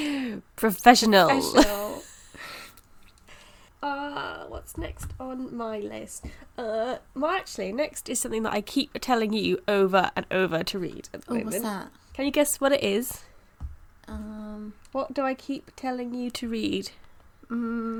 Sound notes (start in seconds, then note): 6.1 thinking noises